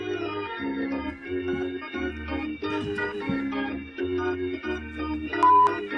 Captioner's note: mic sounds